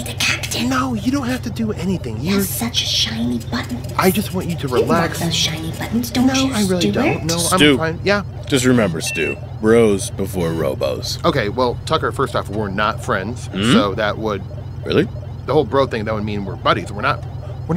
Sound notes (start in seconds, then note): 4.4 laughs; 12.0 laughs